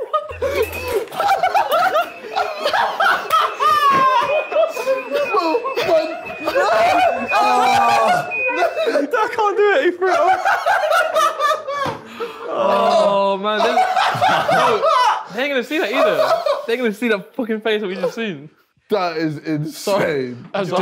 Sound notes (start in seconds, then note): 0.0 buzzer game beeping; 0.1 group laughing; 10.5 group laughing